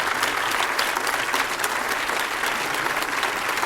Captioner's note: applause